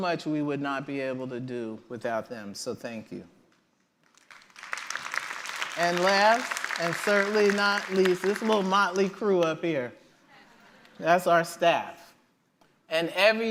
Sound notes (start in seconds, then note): 4.0 applause